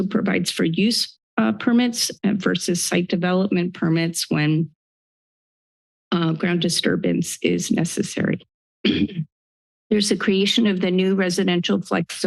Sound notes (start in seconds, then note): 8.8 clears throat